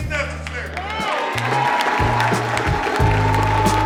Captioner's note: audience applauding